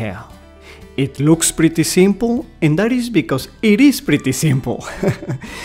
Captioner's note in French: rires